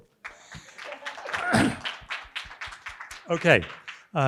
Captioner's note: audience applauding